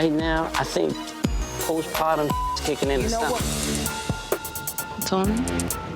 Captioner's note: beep